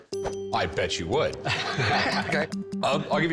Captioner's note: both laugh